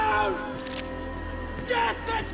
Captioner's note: guns cock